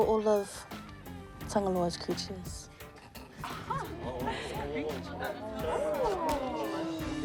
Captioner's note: students snigger, exclaim